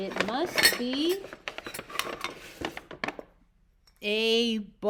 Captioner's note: clanking